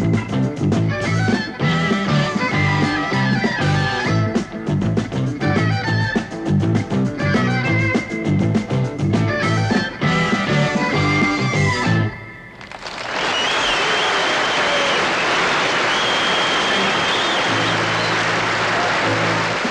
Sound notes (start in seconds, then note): 1.6 upbeat rock music continues; 7.5 upbeat rock music continues; 12.5 crowd cheering